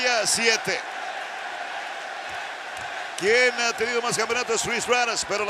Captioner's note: applause